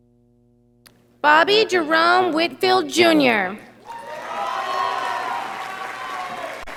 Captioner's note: audience applauding